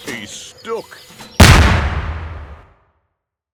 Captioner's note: ka-Boom!